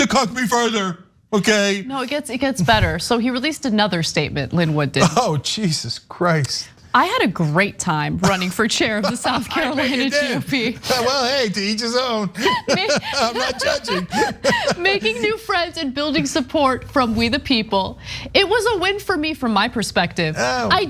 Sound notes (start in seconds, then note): 12.1 laugh